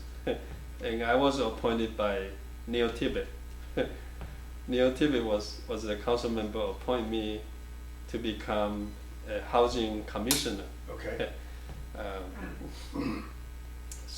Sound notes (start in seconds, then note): 10.8 offscreen Voice; 12.3 clears throat